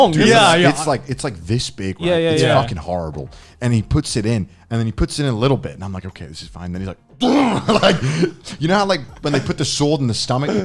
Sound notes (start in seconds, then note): 7.2 Garnt laughing